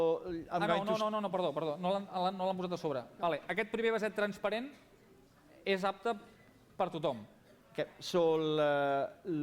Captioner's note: non-english speech